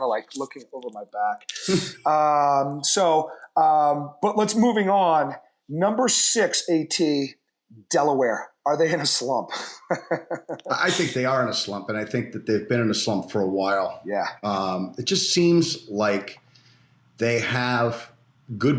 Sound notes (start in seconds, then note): 9.5 laughter